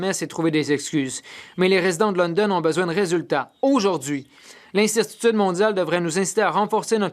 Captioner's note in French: voix de l'interprète